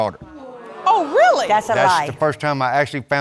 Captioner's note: audience gasping